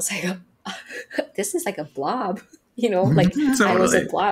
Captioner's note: chuckles